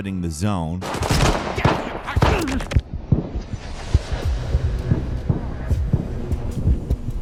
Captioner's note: guns blasting; group grunting